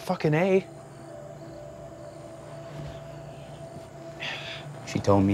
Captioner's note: crickets chirping; tense music